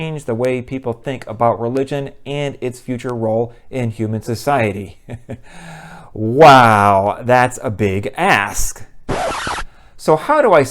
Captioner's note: record scratch